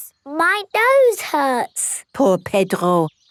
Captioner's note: nasal voice